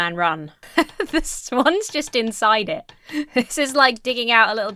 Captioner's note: chuckles